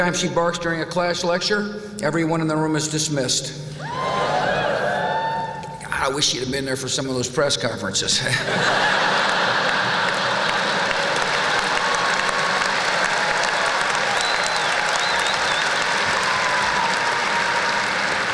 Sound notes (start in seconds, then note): 3.7 whoop!; 9.7 laughter; 11.2 applause